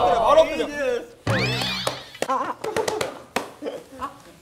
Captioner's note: excited